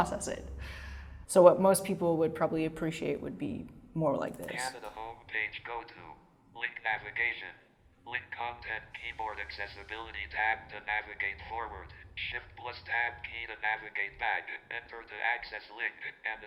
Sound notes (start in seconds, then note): 4.4 computer voice